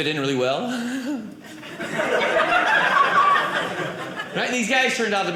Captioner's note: audience laughing